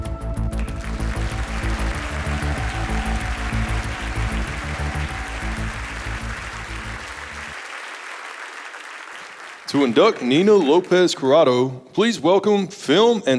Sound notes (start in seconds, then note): 0.9 audience applauding